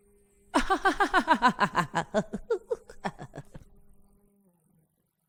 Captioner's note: laughter